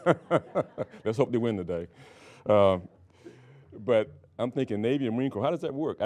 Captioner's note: laughing